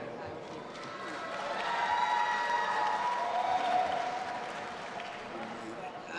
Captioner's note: audience applauding and cheering